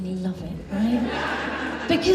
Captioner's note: audience Laughs